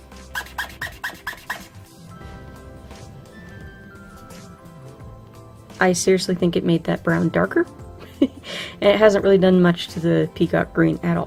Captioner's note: very squeaky marker